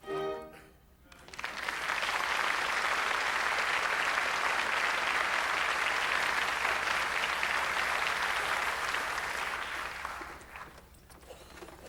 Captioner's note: applause